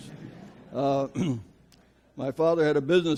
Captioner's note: audience laughs